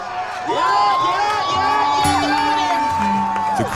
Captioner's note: cheering